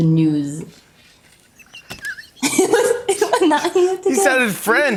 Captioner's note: laughs